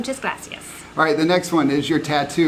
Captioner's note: speaking Spanish